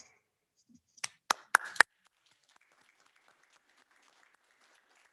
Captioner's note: all applauding